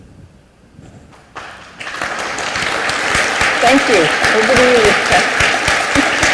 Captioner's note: applause